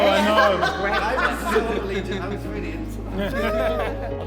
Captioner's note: laughs